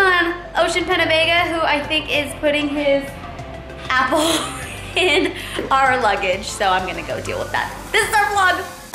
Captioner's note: laughs